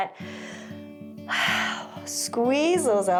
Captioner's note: inhales and exhales